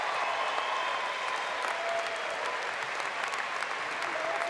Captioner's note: applause